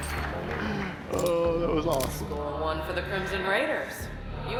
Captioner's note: applause